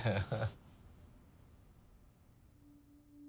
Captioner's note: laughter